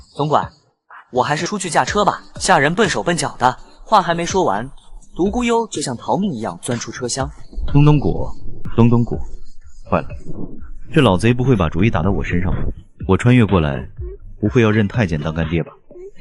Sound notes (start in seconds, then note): 7.3 thump thump thump thump